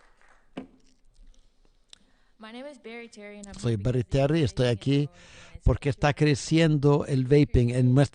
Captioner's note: applause